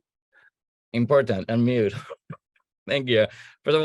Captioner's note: chuckling